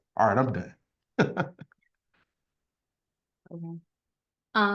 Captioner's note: chuckling